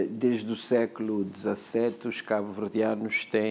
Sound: speaking portuguese

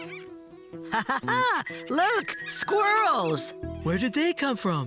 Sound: squirrels Chattering; laughing

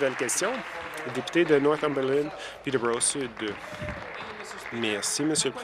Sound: applause

